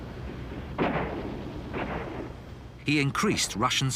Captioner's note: guns blasting